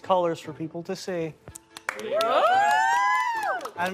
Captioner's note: cheering